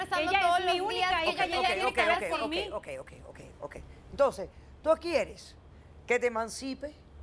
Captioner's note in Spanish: Comentarios al unísono